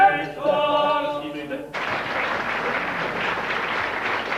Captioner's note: audience applauding